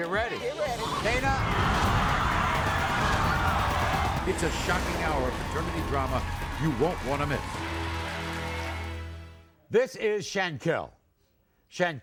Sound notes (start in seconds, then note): 0.6 audience yells